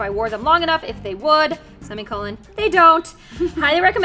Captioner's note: laughs